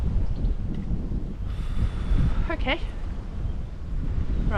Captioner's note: deep breath